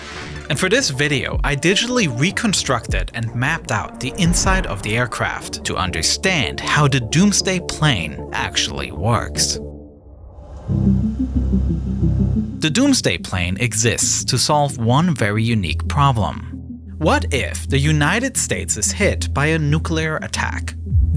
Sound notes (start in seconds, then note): 4.2 video whooshes; 10.8 bright music